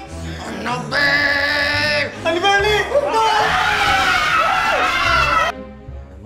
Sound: screams

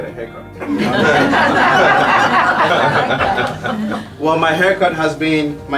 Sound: laugh

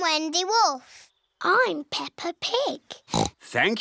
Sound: oinks

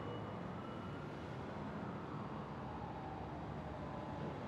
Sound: distant sirens wailing

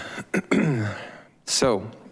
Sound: clears throat

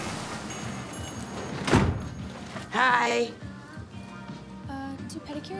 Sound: door closes

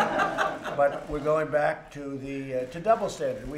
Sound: laughter

